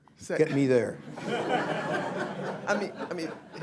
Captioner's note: laughter